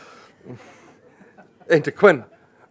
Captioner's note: laughs